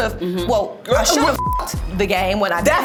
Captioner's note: beep